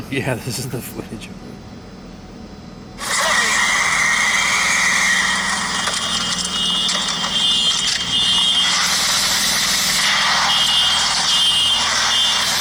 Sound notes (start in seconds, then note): 3.3 screeching; 6.0 car alarms blaring